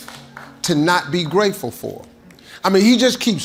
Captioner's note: audience clapping